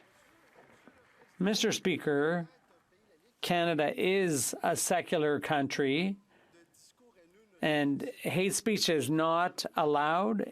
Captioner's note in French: applaudissements